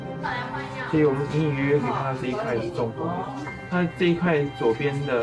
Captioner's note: speaking in foreign language